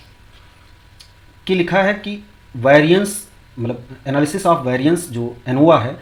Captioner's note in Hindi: नाक से की जाने वाली आवाज़